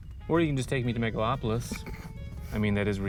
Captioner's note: scoffs